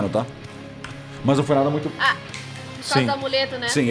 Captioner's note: fingers snapping